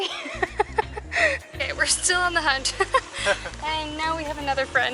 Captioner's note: laughter